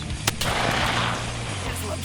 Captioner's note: gunshot